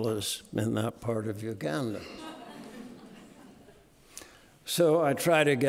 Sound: audience laughing

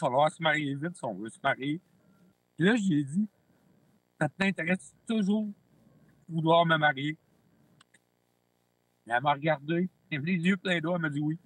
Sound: speaking French

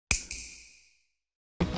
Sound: snap

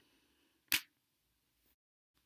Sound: lightswitch click

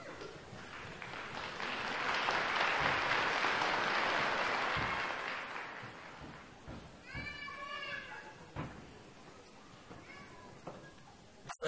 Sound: applause

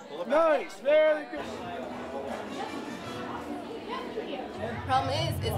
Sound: crowd noises

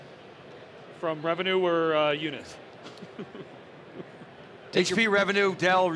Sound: laughs

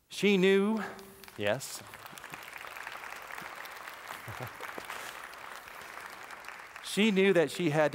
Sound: applause

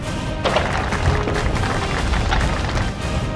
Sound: crash

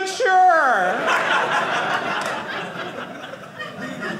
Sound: audience laughing

